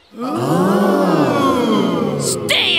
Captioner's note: gasping